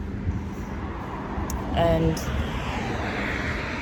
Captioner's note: vehicles approach; wind blows; clicks tongue; vehicles pass